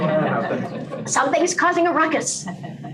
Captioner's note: laughter